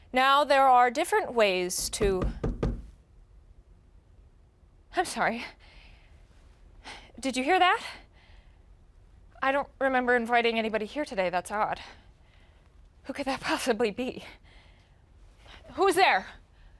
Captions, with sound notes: Now, there are different ways to- (door knocking) I'm sorry. Did you hear that? I don't remember inviting anybody here today, that's odd. Who could that possibly be? Who's there?